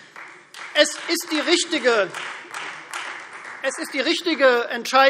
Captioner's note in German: Beifall Freie Demokraten